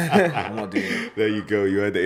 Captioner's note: laughs